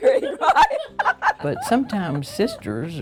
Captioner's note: laughing